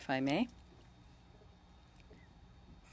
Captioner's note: speaking French